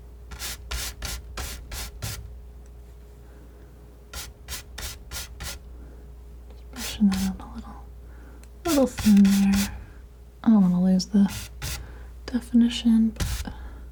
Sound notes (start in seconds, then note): 4.1 scratching; 13.1 scratching